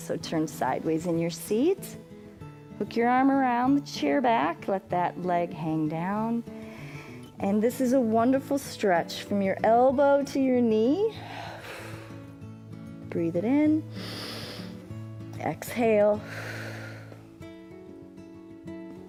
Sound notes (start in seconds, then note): 13.9 exhales; 13.9 inhales; 16.5 exhales